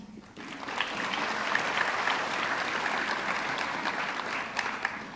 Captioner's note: audience clapping